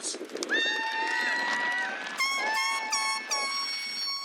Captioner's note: cheering, horns